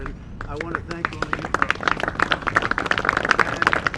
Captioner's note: applause